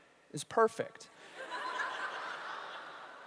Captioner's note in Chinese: 笑聲